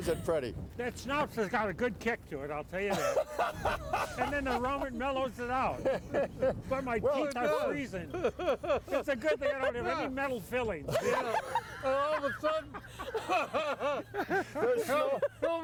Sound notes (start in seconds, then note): 2.8 laughing; 8.0 laughing; 10.8 all laughing